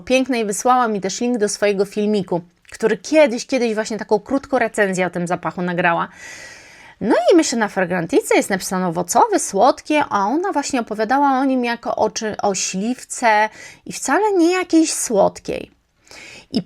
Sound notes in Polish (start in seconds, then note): 6.1 wciągnięcie powietrza